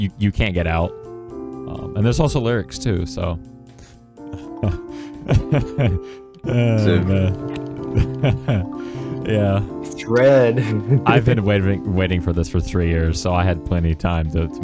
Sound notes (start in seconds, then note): 4.2 laughing manically; 6.5 still laughing manically